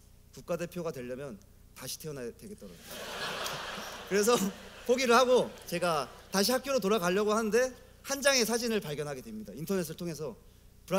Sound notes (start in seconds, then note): 2.8 laughter